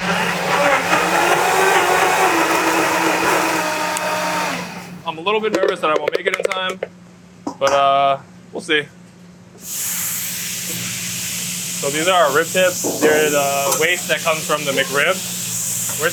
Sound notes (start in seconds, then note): 0.0 blender whirring; 10.1 ribs sizzling